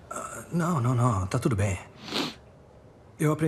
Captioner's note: sniffs